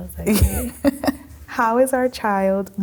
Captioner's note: laughing